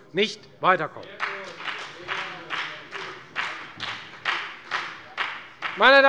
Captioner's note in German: Beifall bei der FDP